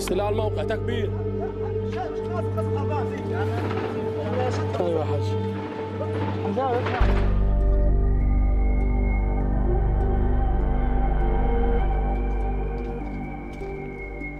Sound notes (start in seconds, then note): 0.3 speaking Arabic; 4.6 distant weapons firing